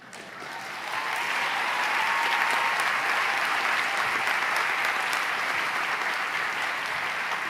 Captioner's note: applause